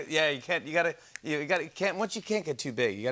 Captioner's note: snaps fingers